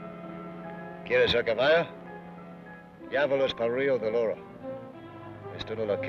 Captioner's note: Ben speaks foreign language